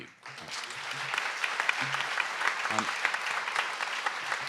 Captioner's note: audience applauds